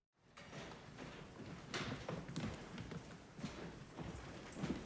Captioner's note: feet pattering